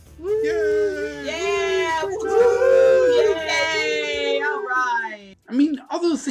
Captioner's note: cheers